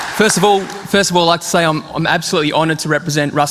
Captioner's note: applause